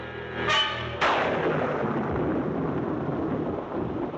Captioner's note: thunderclap